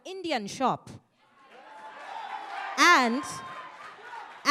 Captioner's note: audience cheering